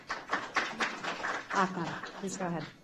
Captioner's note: applause